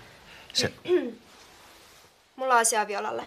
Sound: clears her throat

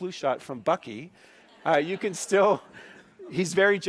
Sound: laughing

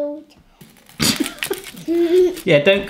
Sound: laughs

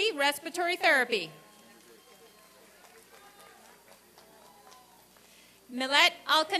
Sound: applause and cheering

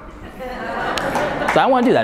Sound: audience laughing

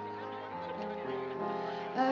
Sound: people chatting

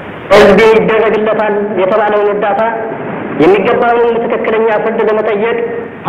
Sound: Selassie speaking in foreign language

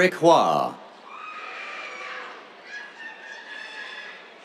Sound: cheers

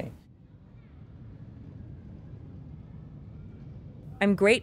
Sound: muted traffic rumbles

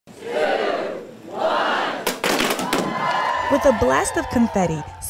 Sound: two, one, cheering

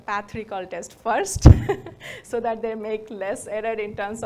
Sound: laughs

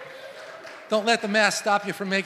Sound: congregation claps

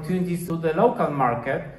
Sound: Polish

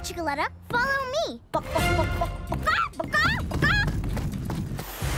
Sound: clucking

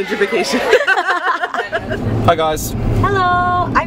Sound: laughs

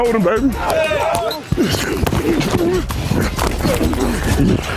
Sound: grunting

